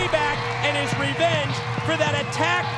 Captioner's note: crowd cheering; bell ringing